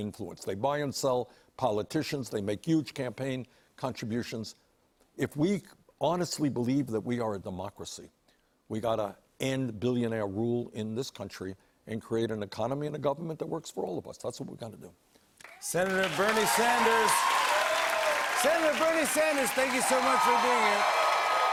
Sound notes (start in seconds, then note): 15.4 cheers and applause